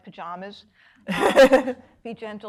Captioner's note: woman laughing